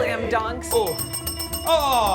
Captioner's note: bell ringing